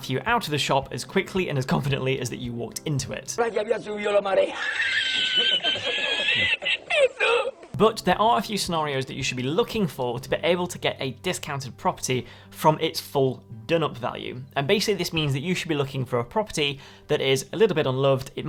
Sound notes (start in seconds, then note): 3.4 man speaking in foreign language; 4.4 people laughing; 4.4 man laughs; 6.9 man speaking in foreign language